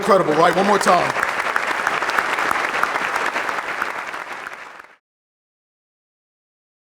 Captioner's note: applause